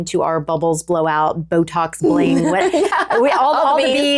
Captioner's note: laughing